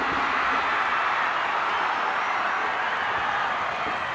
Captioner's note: crowd cheers